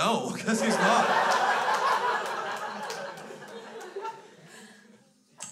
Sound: crowd laughs

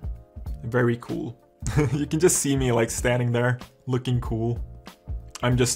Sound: laughs

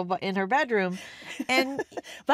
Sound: laughs

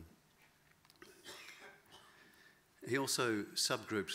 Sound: audience coughs

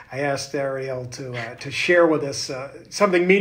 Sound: chuckles

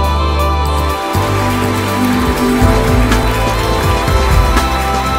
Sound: applause

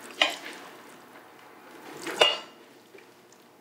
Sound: scraping

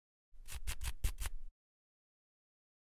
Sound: scratching

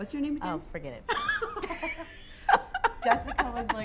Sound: laughter

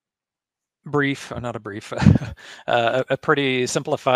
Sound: chuckles

